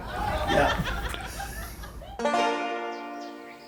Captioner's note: laughing